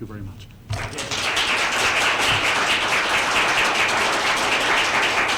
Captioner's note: applause